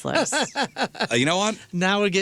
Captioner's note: laughing